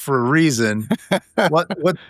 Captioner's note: laughing